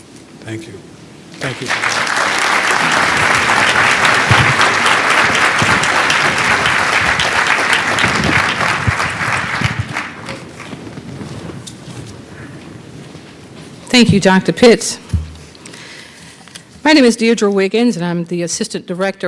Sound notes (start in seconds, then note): 1.4 applause